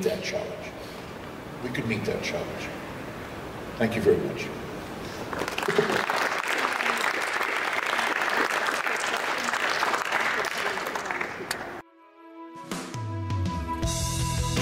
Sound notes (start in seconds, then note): 5.2 applause; 11.8 background music